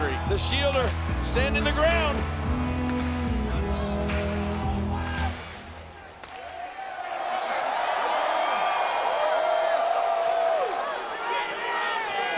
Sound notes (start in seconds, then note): 7.5 crowd cheers